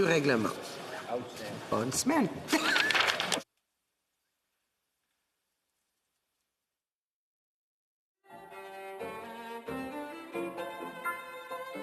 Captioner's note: speaking in French